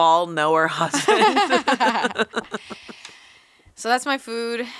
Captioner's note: laughing